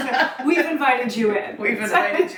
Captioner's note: laughs